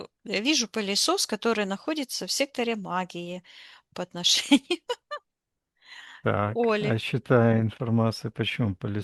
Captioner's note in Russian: смех